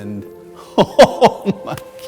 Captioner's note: laughing